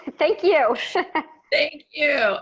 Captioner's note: laughing